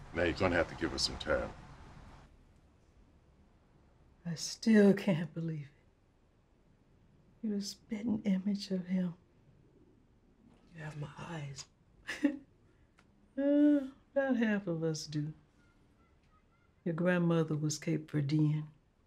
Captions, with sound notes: Now, you're gonna have to give her some time. - I still can't believe it. You're a spitting image of him. - You have my eyes. (chuckles) - Oh, about half of us do. Your grandmother was Cape Verdean.